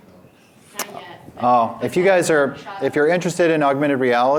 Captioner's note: speaks off microphone